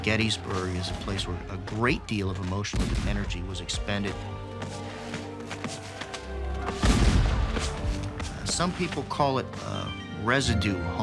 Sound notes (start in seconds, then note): 2.7 guns firing